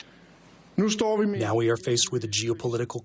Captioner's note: through translator